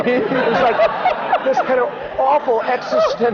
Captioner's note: laughter